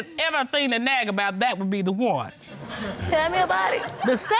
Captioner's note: audience laughing